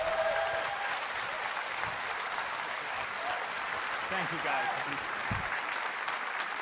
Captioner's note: cheers and applause